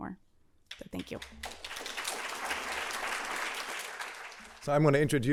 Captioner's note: applause